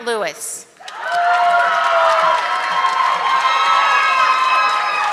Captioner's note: audience clapping